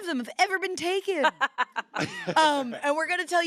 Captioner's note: laughs